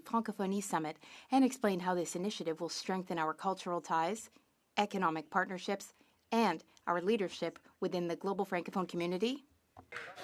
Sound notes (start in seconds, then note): 3.4 speaking French